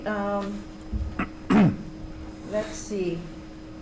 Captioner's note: clears his throat